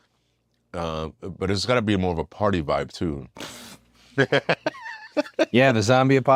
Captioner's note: laugh